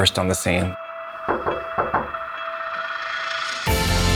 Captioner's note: door knocking; uplifting music